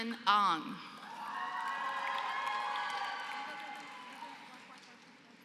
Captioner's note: applause